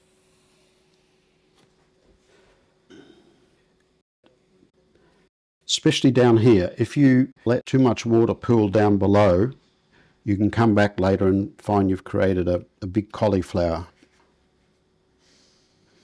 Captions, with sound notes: [Silence] Especially down here. If you let too much water pool down below, you can come back later and find you've created a big cauliflower.